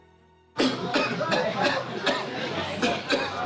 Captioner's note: coughing